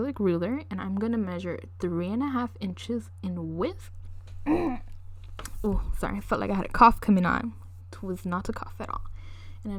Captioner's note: clears throat